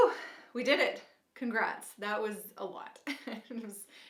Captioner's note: chuckles